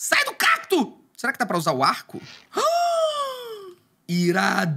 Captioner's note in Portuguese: faz som de surpresa